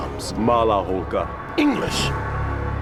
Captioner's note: Josef speaking in foreign language